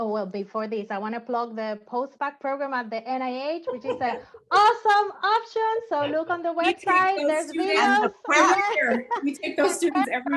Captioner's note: laugher and agreement